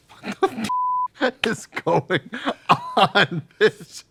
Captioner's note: beep